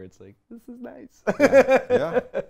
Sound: laughs

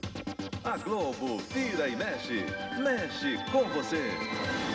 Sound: male announcer speaking Portuguese

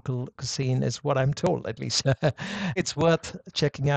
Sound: chuckles

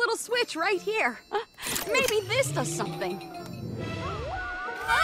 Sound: powering down

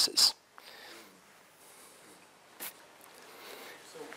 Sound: pause

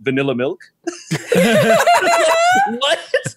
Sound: all laugh

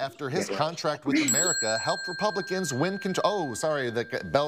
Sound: bell ringing

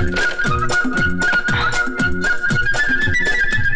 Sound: sighs

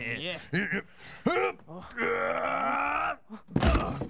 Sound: chuckling; groaning; loud thunk

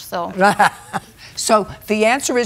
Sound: chuckles

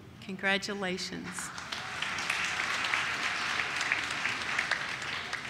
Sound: audience claps

